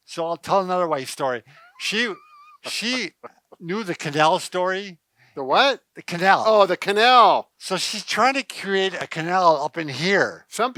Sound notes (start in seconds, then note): 1.6 laughter